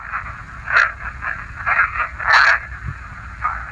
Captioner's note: ghostly voice